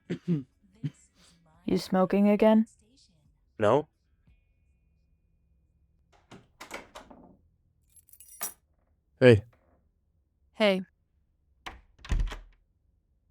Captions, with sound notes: [soft coughing] - You smoking again? - No. [door opening] [keys dropping] - Hey. - Hey. [door closing]